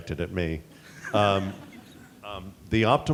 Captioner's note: laughter